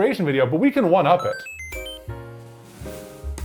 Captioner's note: one-up mushroom chime